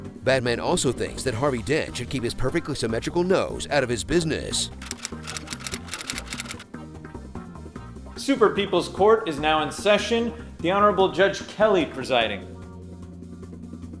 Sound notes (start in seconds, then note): 4.8 typewriter clacking